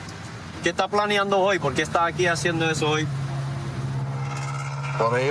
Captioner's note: speaking spanish